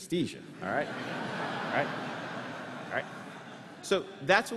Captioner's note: laughter